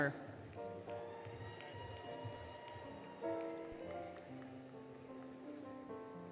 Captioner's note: applause, Cheering, Music